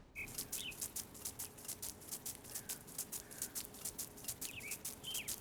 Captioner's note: birds chirping & water being sprayed